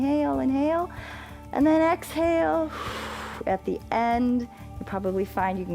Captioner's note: exhales